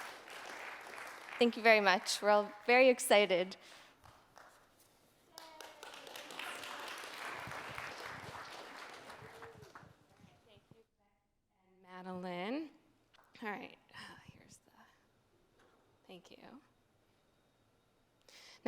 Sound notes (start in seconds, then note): 5.3 applause